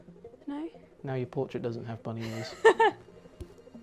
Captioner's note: laughter